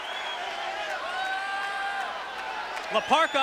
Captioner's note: attendees cheering